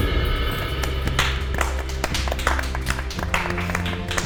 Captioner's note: everyone clapping